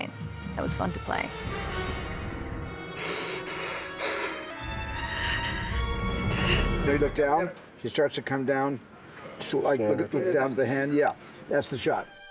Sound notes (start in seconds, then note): 2.7 breathing heavily